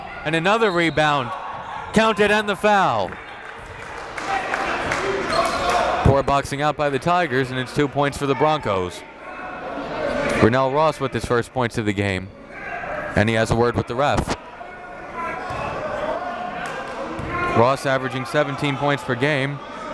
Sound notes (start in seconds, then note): 1.2 whistle blows; 3.1 applauding